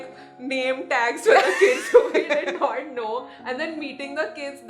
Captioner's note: laughs